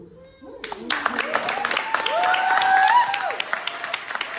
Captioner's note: applause